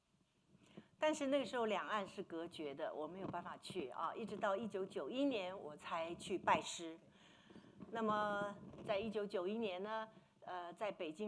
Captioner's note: speaking Mandarin